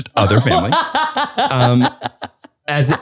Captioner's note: laughs